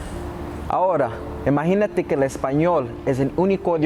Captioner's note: speaking Spanish